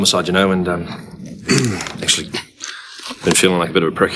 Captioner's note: clears throat